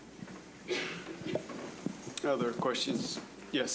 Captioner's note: audience member coughing